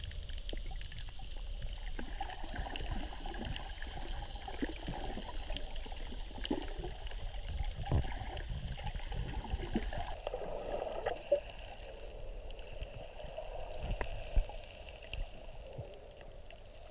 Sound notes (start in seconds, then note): none